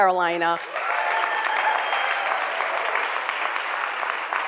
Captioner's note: cheering and applause